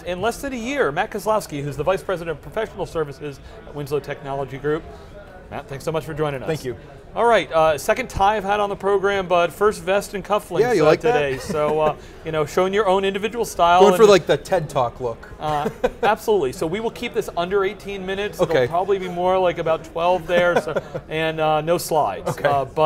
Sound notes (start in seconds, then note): 15.4 laughs